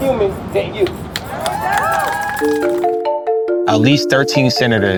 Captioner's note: cheers